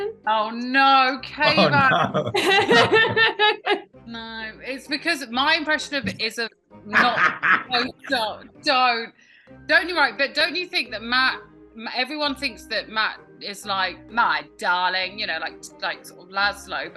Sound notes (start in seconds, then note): 1.4 laughter